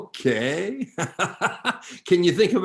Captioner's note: chuckles